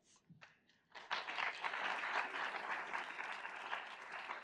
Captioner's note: audience applauds